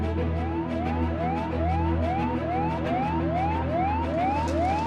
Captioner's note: alarm blaring